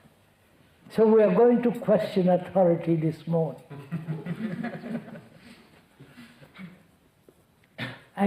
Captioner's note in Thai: หัวเราะ